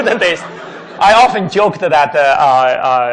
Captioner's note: laughing